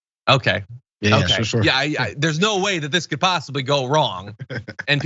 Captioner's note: laugh